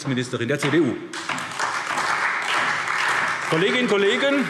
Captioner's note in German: Beifall SPD, Freie Demokraten und DIE LINKE